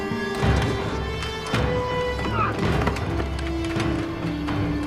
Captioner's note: grunts